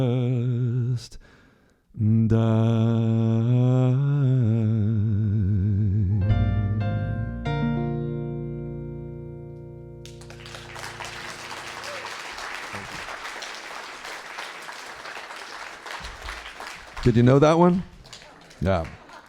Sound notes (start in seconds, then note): 9.3 applause